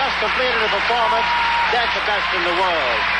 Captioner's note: applause